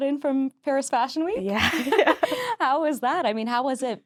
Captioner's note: laughing